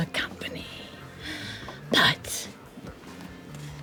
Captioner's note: gasps